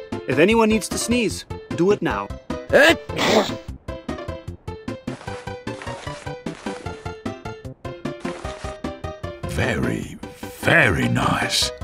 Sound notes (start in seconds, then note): 2.7 sneezes in German